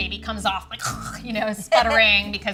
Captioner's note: gurgling